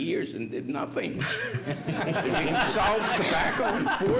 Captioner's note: laughs